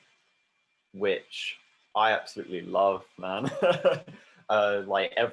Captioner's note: she laughs